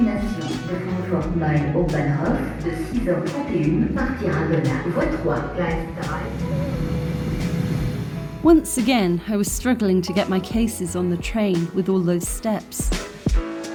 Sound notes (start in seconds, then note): 0.1 platform announcement in French; 6.1 train